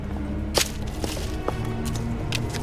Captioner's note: rustling leaves